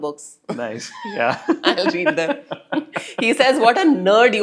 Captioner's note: laugh